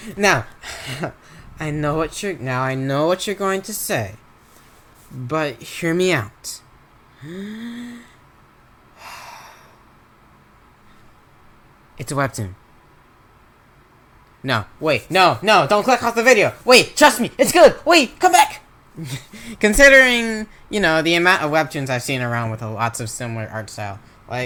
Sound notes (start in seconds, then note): 7.1 breathes in; 10.0 breathes out